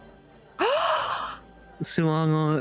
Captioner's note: gasps